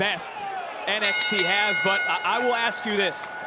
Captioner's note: bell rings